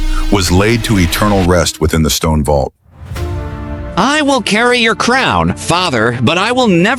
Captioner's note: whispered